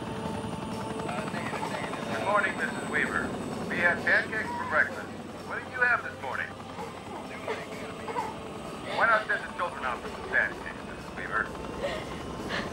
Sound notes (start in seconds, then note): 1.2 man #1 on bullhorn; 11.6 sobbing